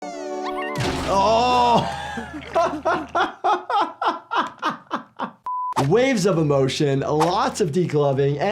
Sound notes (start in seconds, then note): 0.6 triumphant music; 0.8 head crashes; 1.1 laughs